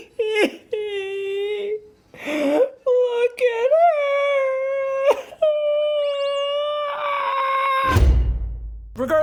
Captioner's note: cries